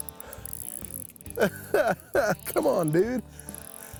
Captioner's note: laughing